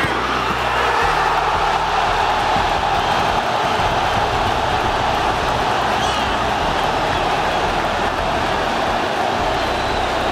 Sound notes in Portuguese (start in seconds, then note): 0.0 sons da torcida; 0.0 gritos de gol; 5.5 torcida celebrando